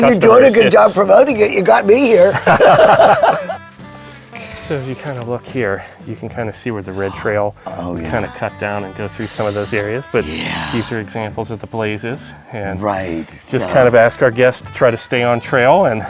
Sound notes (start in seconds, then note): 2.1 laughing